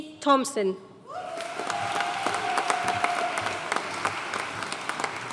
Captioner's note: audience cheering and applauding